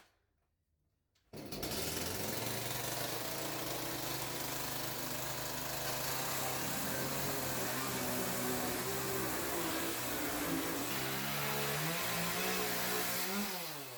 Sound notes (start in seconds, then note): 1.4 chainsaw